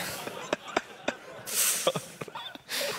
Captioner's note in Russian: смех